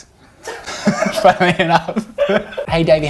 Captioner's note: laughing